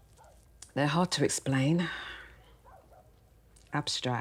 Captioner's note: dogs barking